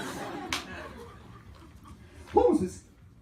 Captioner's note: laughter